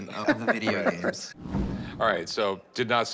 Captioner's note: laughs